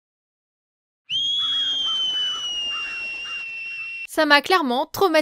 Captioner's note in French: Cris proches des ultra-sons